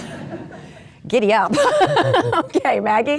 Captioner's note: laughing; crowd laughing